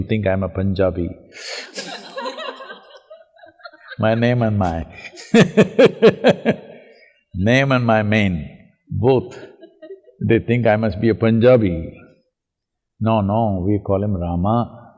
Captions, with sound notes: think I'm a Punjabi (Laughter). My name and my (Laughs)... name and my mane both, they think I must be a Punjabi. No, no we call him Rama tch.